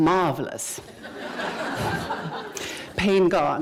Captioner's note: laughter